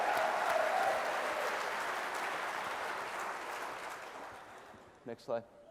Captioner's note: applause